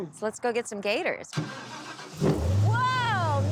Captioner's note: engine starting